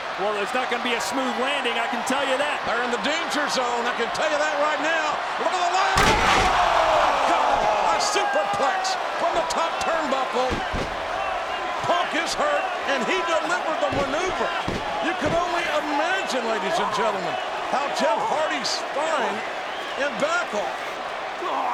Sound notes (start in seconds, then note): 5.9 bodies thud; 6.5 audience groans